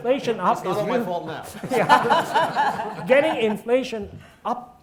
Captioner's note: audience laughing